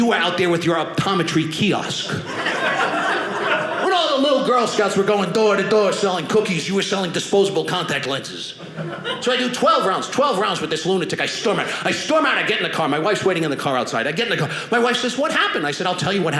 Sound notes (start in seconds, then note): 1.9 audience laughing